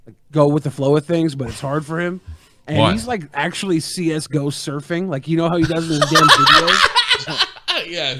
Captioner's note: laughing